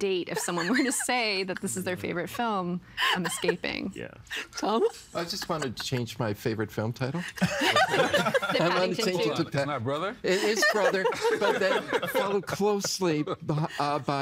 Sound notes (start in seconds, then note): 7.3 laughing